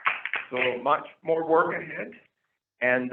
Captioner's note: applause